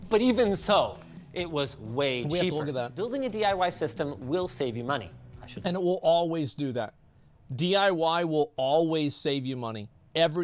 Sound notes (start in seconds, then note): none